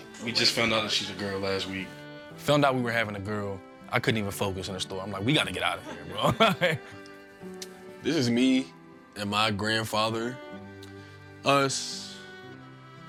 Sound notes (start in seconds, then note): 5.6 laughs